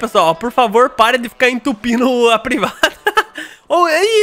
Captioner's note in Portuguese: risos